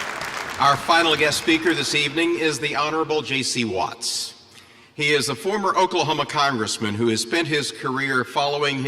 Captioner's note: applause